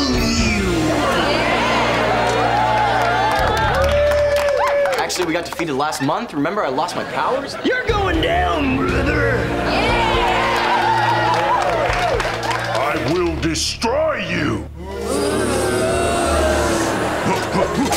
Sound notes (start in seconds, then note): 0.1 cheering; 9.3 cheering; 14.7 booing; 16.8 grunting